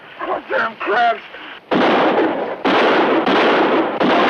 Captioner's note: gun fires